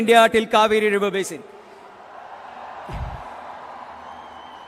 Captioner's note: cheering